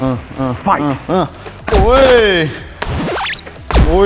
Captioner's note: grunting; shouts; kick thudding; pad slapping; record scratching